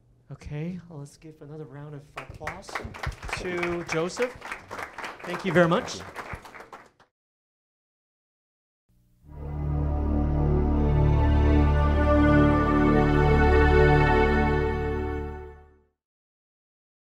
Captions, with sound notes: Okay, well let's give another round of applause to Joseph. (audience clapping) Thank you very much. (intense music)